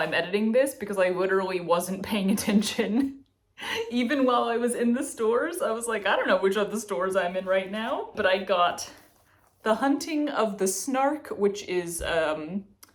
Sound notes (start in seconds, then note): none